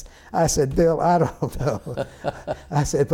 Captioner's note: laughter